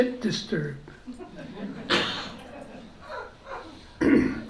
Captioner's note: laughter